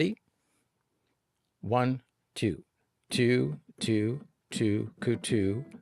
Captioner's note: vox + tapping